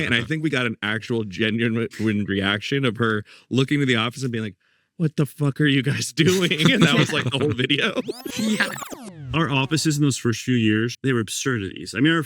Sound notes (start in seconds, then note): 7.9 graphic buzzes